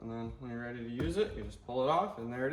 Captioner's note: cover snapping